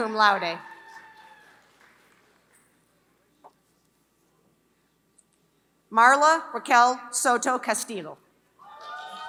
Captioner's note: applause; applause